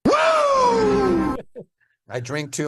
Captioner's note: virtual attendee cheering